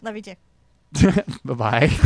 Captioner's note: laughs